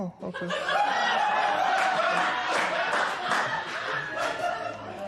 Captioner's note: laughter